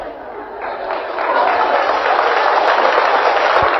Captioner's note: audience claps incredulously